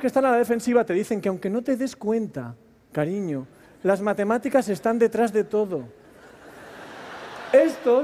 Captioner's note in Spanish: Risas